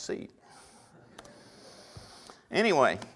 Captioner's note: audience laughter